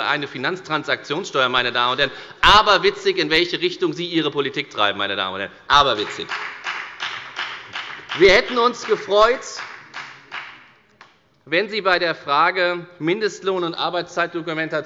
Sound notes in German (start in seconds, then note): 7.4 Beifall bei der FDP